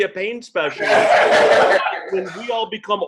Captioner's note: laughter